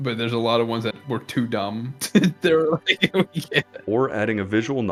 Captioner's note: more chuckles; giggles